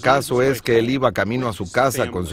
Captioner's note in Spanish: habla en ingés